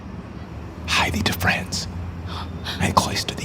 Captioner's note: whispering